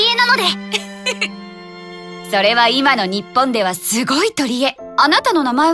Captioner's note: giggle